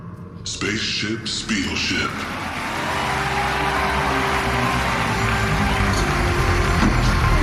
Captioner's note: cheering